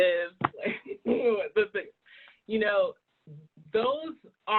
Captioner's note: groans